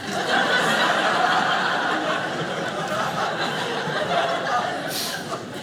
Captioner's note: audience laughing